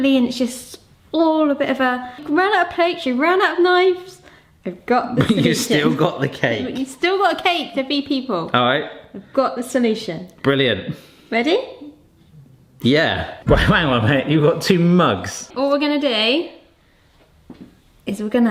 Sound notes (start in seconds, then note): 5.1 laughing